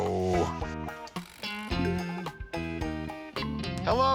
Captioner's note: computer chimes